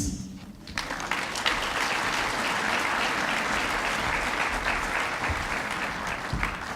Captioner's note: applause